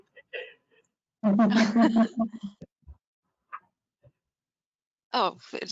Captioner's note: laughing